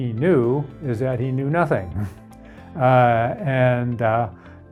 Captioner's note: laughs